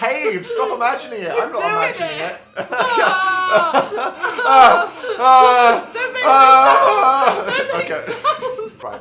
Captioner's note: screaming